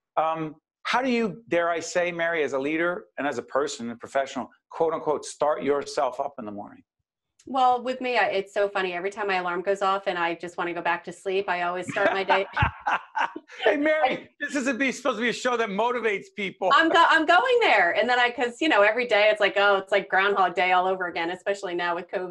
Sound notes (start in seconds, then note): 11.8 laughing